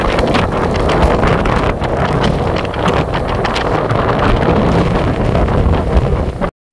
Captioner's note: wind sound